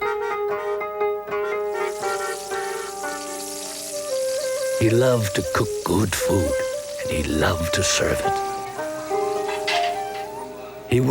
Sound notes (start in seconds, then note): 0.1 car honking; 2.3 oil sizzling; 8.2 plates clinking